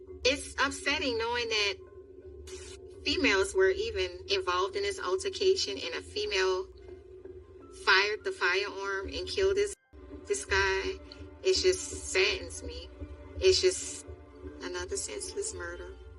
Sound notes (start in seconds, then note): 11.4 TV static hisisses